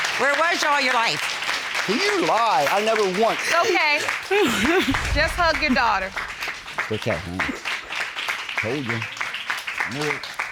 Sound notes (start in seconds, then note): 1.8 sobs